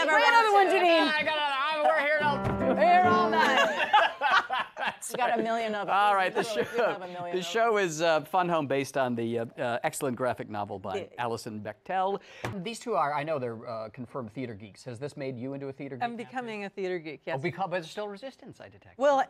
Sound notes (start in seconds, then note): 3.3 laughter